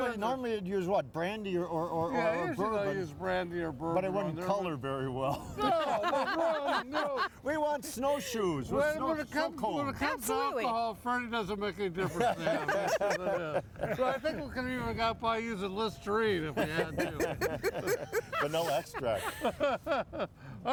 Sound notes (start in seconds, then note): 5.3 all laughing; 12.0 all laughing; 16.5 all laughing; 19.4 laughing